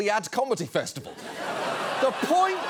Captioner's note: audience laughs, applauds